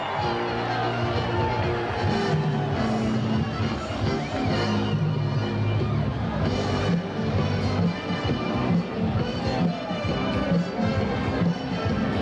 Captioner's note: audience screams